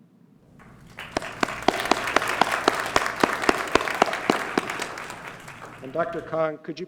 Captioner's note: applause